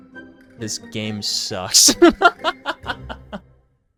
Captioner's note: laughs